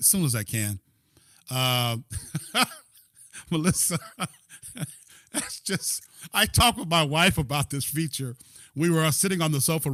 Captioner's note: laughter